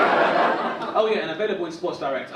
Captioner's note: audience laugh